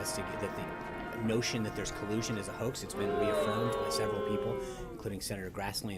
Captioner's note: boo track